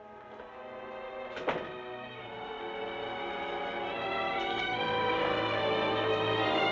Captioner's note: dramatic music; door thumping